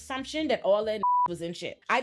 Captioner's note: beep